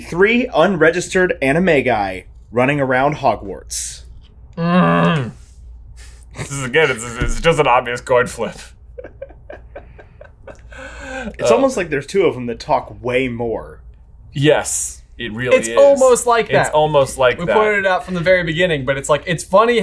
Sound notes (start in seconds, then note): 4.5 groans; 8.9 laughs